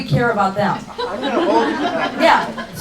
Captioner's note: laughing